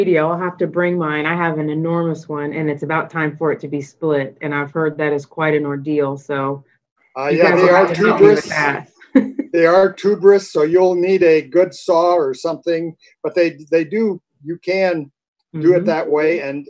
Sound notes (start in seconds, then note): 7.2 laughs